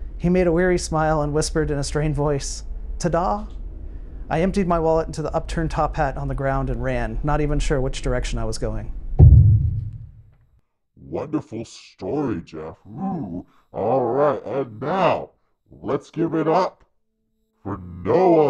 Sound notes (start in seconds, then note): 9.2 heavy object thudding